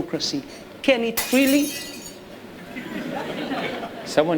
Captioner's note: glass breaking